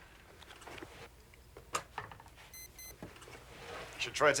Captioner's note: beeping